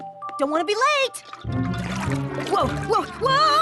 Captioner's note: sloshing